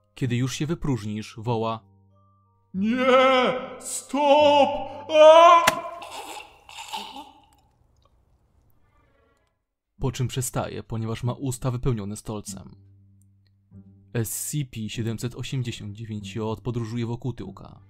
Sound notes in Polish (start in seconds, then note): 5.7 Plusk i odgłosy dławienia się stolcem